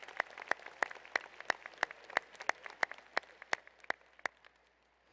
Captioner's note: applause